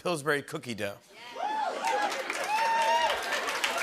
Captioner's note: cheers and applause